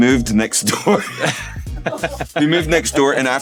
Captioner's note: laughing